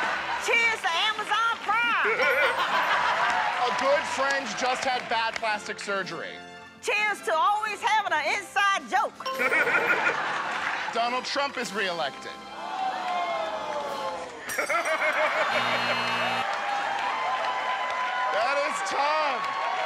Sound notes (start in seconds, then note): 2.0 laughter; 9.3 laughter; 12.6 audience "ohhs"; 15.3 buzzer